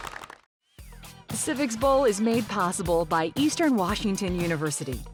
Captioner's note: all applauding